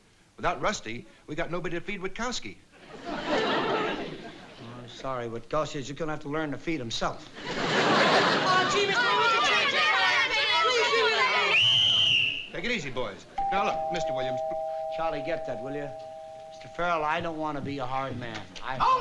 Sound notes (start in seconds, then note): 7.9 collective whining; 11.3 whistle blows; 13.4 doorbell chimes